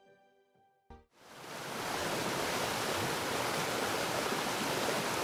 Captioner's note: waterfall rushes